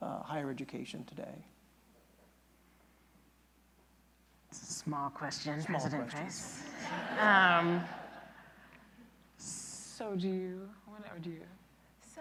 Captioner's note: laughter